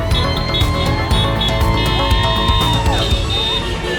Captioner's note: crowd cheering